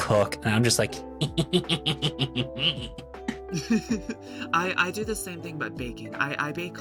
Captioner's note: gremlin laugh